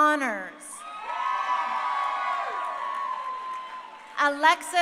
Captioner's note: crowd cheering